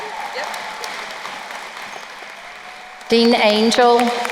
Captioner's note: crowd cheering; crowd applauding